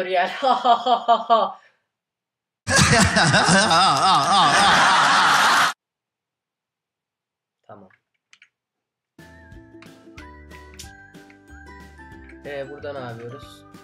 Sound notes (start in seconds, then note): 0.3 laughter; 2.6 laughter + laughter